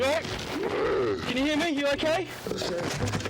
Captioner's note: passenger groaning